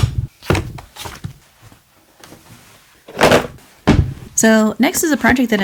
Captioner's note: bonk